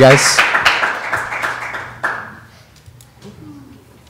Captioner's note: applause